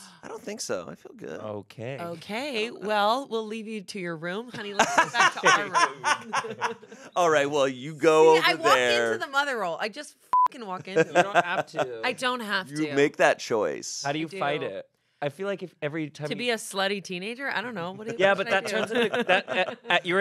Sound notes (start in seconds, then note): 4.6 everyone laughs; 10.3 beep